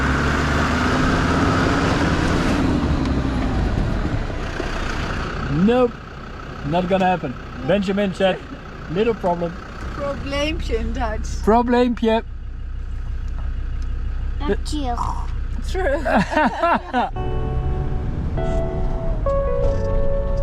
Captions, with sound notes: Nope! Not gonna happen. Benjamin check little problem. 'Probleempje' (speaking dutch) - True. - True.